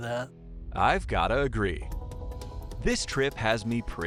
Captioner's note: voiceover